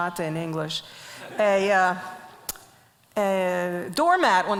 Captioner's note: audience laughs